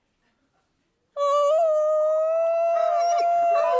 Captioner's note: all howling